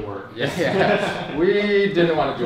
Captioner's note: chuckling